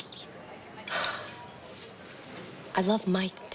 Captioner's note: Rebecca sighs